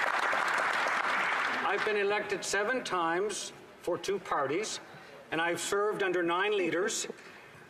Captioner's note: applause